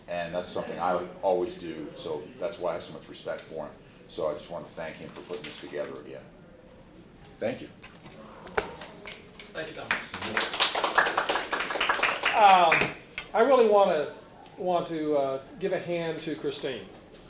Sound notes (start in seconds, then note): 9.8 applauding